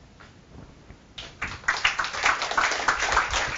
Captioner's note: applause